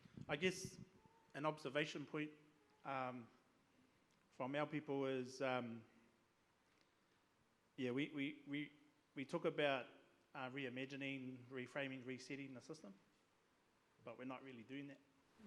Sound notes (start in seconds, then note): none